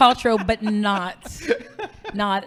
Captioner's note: laughing